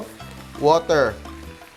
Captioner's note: sizzles